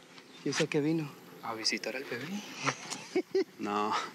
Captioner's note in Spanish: risas